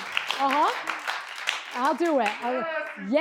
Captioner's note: audience applauds